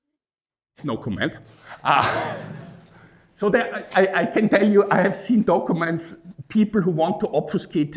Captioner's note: laughs